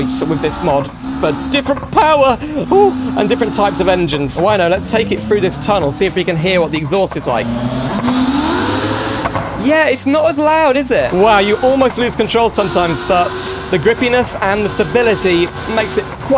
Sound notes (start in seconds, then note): 8.4 exhaust Noise Echo